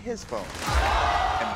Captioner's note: audience groans